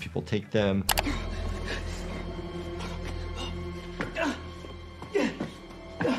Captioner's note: panicked breathing, grunting